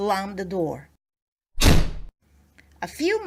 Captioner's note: door slams